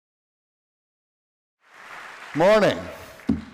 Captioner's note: applause